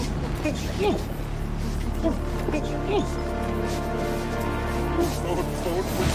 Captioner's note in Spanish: Exclamaciones ahogadas